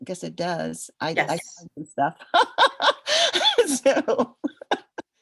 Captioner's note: laughter